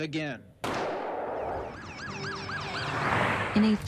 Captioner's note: gunshot; sirens wailing